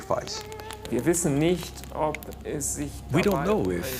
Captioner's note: speaking in foreign language